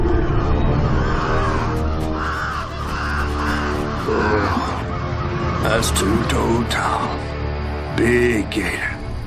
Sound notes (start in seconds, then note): 3.6 panicked squawking